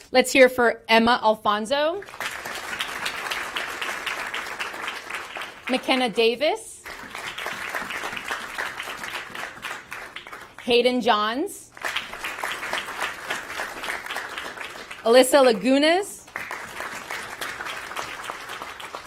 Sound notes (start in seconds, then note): 0.1 applause; 11.7 applause